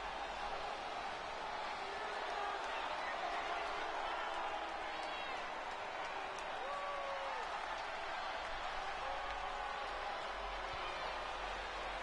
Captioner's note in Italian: Applauso